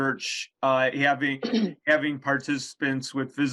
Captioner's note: clears throat